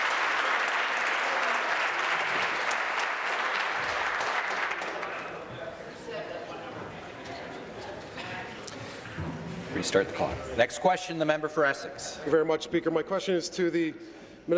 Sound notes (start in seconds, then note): 2.5 applause